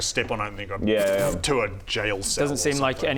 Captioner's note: pfttpft